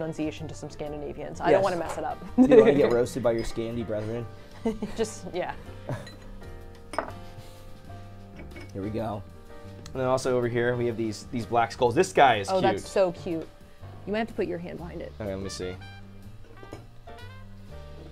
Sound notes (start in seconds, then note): 2.2 laughs; 5.2 jazzy piano music